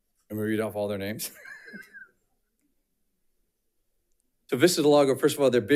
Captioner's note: chuckles